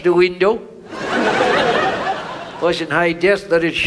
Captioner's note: audience laughs